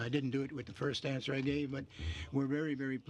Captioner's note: speaking in french